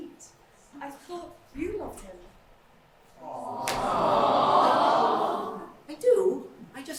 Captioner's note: audience aww